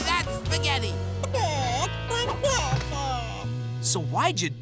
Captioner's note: clucking